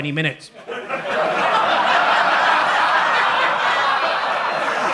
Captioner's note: audience laughs